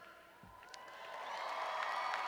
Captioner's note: cheers